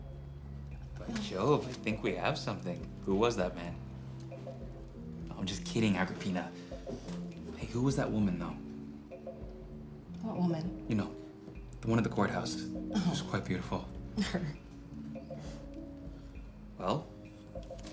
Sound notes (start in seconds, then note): 14.2 scoffs